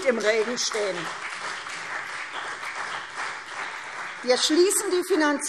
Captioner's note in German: Beifall CDU und BÜNDNIS 90/DIE GRÜNEN